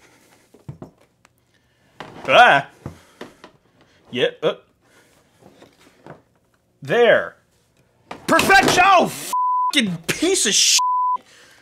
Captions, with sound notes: Bleh, yeah, uh, there, perfection-- oh, (beeping) piece of (beeping).